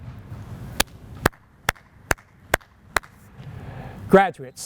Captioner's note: hands clapping